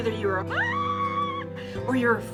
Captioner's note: screams